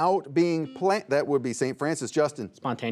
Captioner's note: buzzer beeps